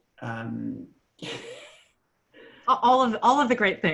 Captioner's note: laughs